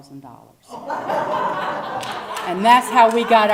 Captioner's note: laugh